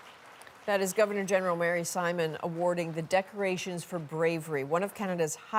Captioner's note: applause